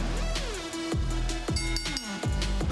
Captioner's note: bell rings